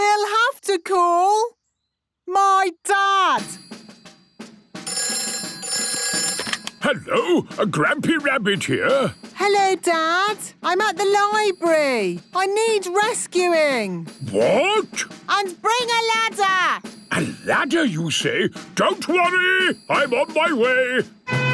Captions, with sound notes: We'll have to call... my dad. (phone ringing) - Hello! Grampy Rabbit here! - Hello, Dad. I'm at the library, I need rescuing! - What? - And bring a ladder! - A ladder you say? Don't worry, I'm on my way!